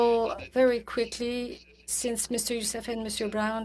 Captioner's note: speaking french